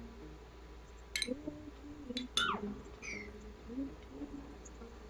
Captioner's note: low humming continues